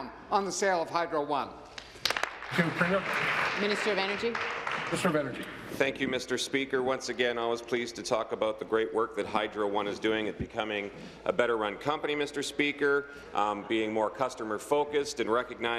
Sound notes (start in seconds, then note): 5.1 applause